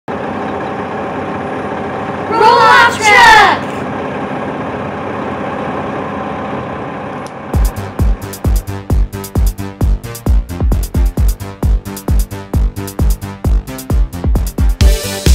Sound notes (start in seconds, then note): 0.1 sounds of roll-off truck lowering container; 4.0 roll-off truck slowly pulling away